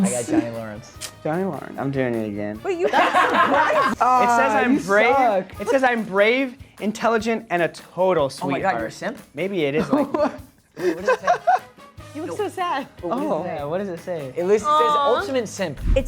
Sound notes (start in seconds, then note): 2.8 all laughing; 10.8 laughing